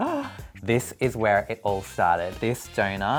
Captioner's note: gasps